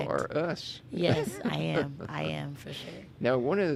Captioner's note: laughing